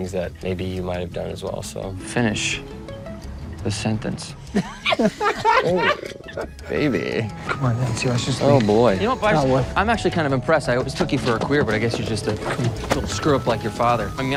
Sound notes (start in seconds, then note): 4.5 everyone laughs